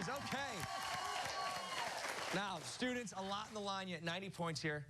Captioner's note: cheers and applause